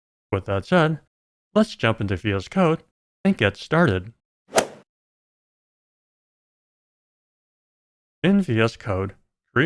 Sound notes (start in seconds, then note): 4.5 golf ball hit sound